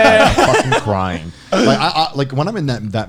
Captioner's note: laughing